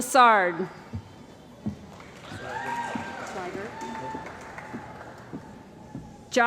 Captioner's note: cheering & Applause